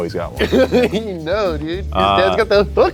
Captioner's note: laughs